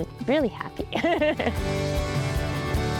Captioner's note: laughs